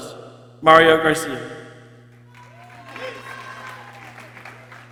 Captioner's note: people cheering